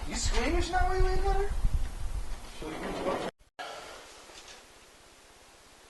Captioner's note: sliding door